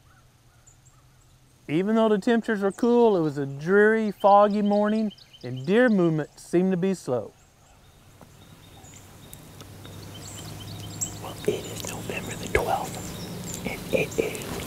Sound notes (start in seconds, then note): 7.8 whispering